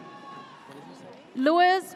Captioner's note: audience cheers